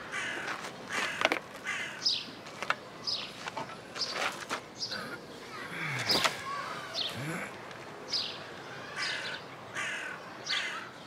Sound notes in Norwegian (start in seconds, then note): 7.2 stønning